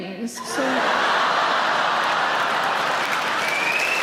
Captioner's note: audience laughing; audience clapping